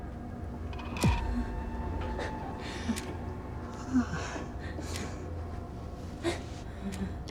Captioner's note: tense gloomy music; clock ticking